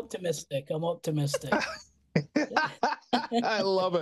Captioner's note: laughter